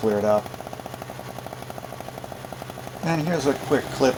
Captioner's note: engine running sounds